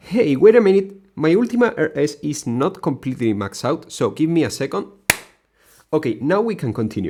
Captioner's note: expensive clap